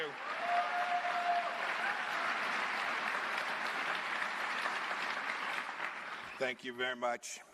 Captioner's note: cheers and applause